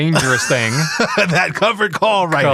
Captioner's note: laughing